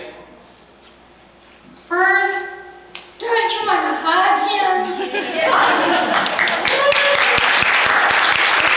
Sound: laughter; applause

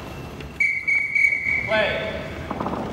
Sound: whistle blows 3 times

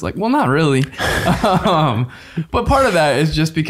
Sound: all laughing

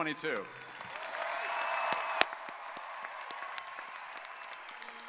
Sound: audience applauding

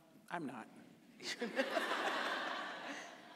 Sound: audience laughing

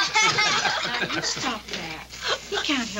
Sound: Royal and boys laughing

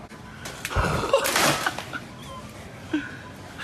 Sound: laughs

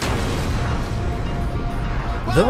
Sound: boom

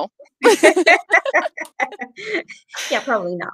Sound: laughing

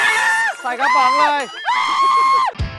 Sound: Off screaming

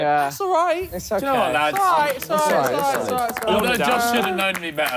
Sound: clapping

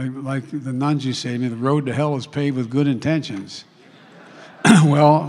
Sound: laughter

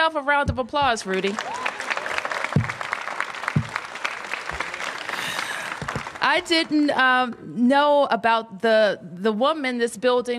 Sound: applause

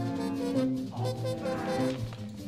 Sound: swearing

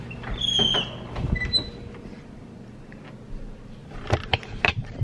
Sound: door squeaking

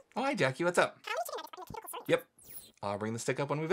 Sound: speaking speedily

